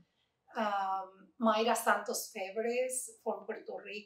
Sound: Spanish

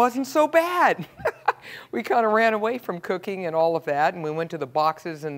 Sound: laugh

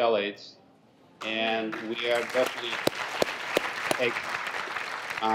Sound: applause

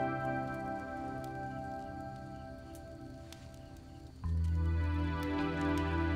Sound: fire blazing

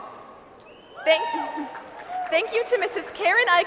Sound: cheering

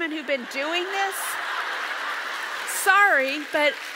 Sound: audience laughs

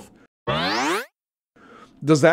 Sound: electric sliding

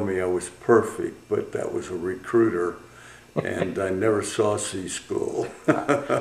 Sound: laughter

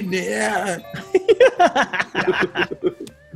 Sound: laugh

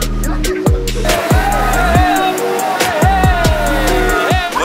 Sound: cheers

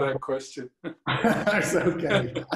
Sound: laughter

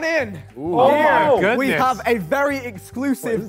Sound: Sidemen cheer

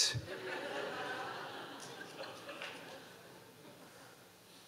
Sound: audience laughing

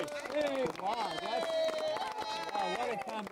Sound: cheers and applause

